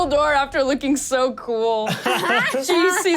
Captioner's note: sounds of banging on door; laugh